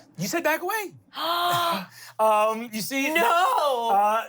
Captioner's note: gasps